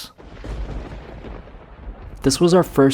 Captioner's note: thunder rumbles